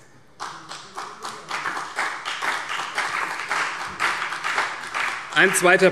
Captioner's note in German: Beifall CDU und BÜNDNIS 90/DIE GRÜNEN